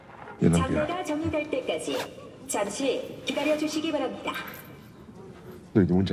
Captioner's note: player speaks in Korean; Thanos speaks in Korean; announcer speaking in Korean; Thanos speaks in Korean